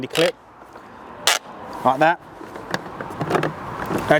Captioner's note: clip snapping; camera clattering